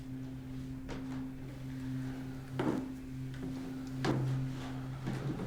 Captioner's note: footsteps creaking